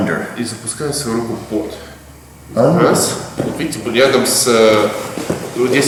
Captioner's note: speaking in a foreign language